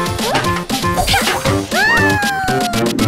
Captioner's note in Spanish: Risas